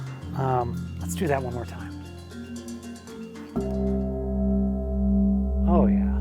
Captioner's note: bell rings